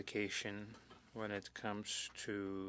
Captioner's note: speaking French